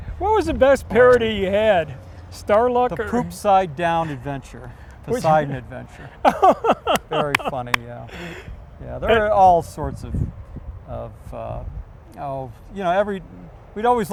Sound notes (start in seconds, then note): 6.2 laughs